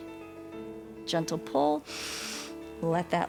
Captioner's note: inhales